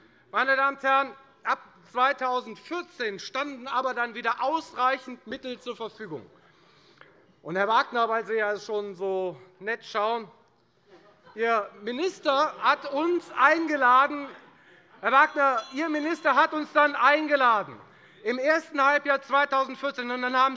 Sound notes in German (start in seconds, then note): 11.0 Allgemeine Heiterkeit - Unruhe - Glockenzeichen des Präsidenten